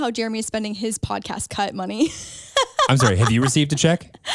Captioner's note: laughs